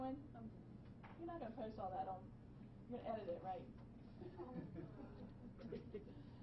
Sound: laughing

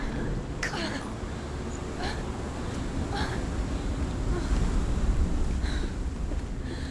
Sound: groaning

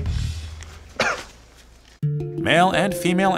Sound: coughs

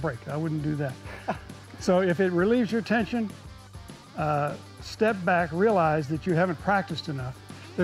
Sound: laughs

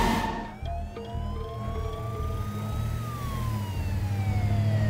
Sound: siren wailing

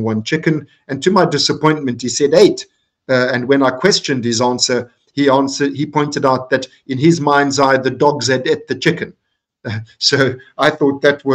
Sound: laughing

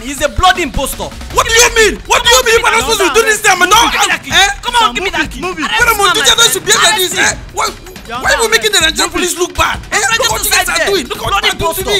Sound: argument

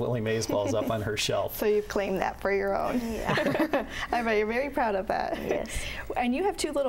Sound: laugh

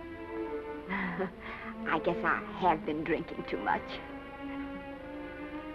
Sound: Esther chuckles

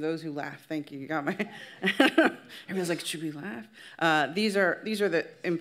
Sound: laughs

